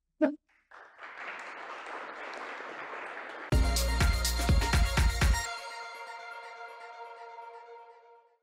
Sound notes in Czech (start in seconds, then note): 0.5 Potlesk